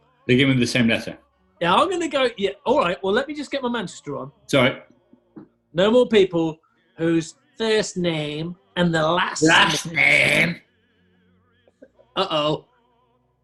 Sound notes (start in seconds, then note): 7.3 exaggerated mancunian accent; 9.8 growls with exaggerated mancunian accent